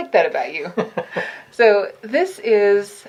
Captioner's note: light laughter